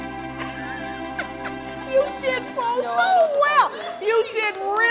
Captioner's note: laugh